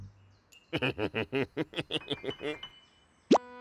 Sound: chuckles

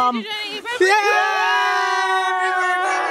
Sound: friends cheering

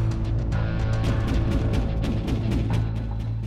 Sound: gunfire

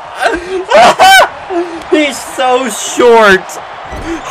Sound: laughs

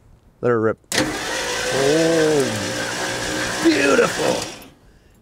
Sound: engine whirring

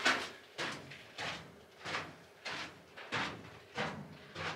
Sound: footsteps

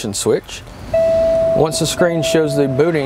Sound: system beeps

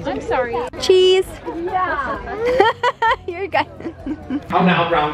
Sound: laughing

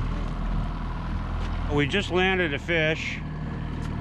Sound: boat engine running

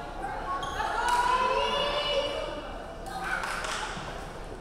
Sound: player shouting

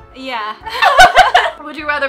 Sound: both laughing

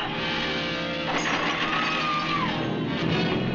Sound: metal clattering; screaming

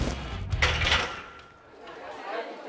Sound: weights clanging

